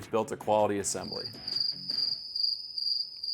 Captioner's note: sound of Crickets